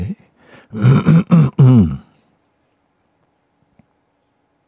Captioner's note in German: Stille